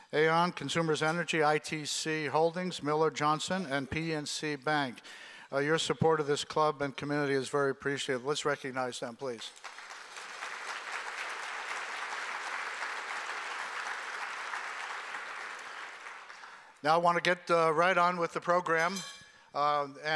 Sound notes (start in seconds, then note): 9.4 applause